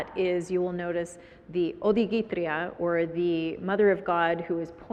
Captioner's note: foreign language